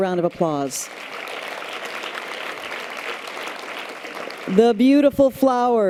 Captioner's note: audience applause